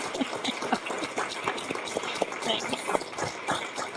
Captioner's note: laughing; audience clapping